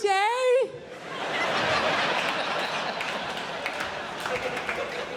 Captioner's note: crowd laughs